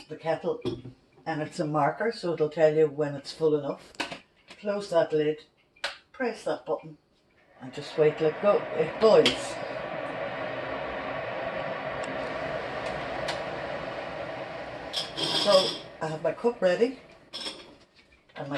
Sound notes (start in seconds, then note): 9.6 kettle heats